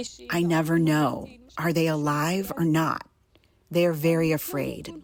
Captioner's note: through translator